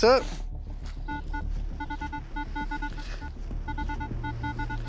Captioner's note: beeping